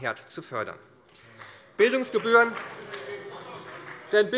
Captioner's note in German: Beifall bei der : Was haben Sie denn gegen Mutterglück?